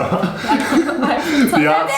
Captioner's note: laughs